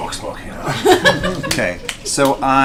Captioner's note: all laugh